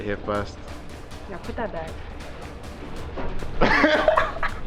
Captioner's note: laughing